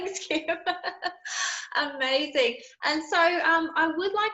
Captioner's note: laughing